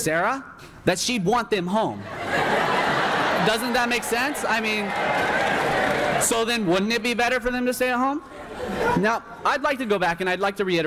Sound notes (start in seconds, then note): 2.1 laughter erupts